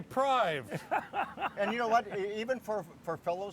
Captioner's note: laughing